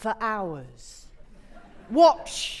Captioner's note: audience laughing